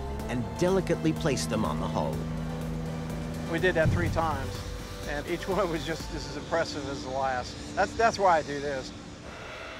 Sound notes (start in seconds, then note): 2.4 machinery whirring